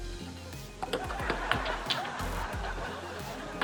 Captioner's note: laughter